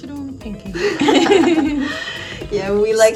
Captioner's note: laughter